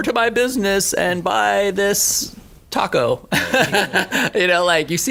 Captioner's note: laughing